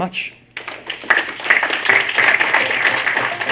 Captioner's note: applause